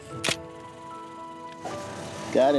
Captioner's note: camera clicks